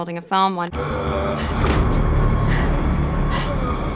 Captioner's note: Bruce groans